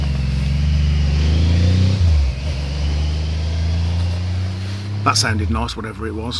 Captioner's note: motorbike Pulling Away